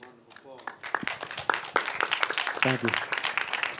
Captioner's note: applauding